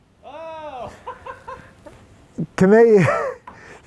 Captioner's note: laughs